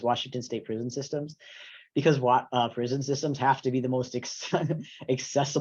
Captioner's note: laughs